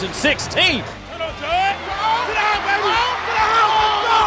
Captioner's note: cheering